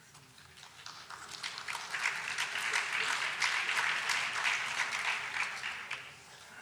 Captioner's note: applause